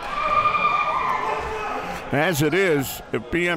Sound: crowd cheering

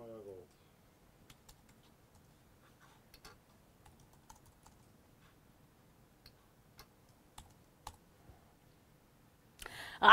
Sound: typing on keyboard

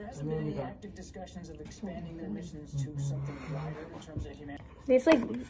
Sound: nom

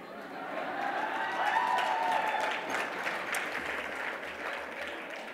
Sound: audience cheering

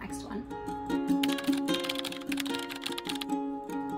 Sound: typing

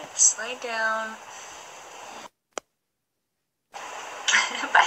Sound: background ocean sounds

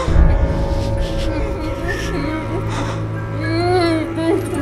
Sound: muffled moans; muffled grunting

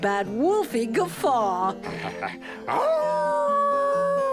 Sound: wolf howls

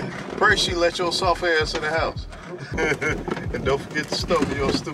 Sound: laughing

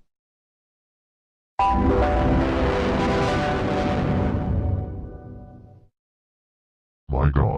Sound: Devil Windows Server 2003 Startup Sound

